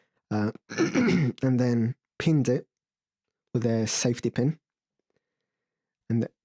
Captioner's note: laboured throat clearing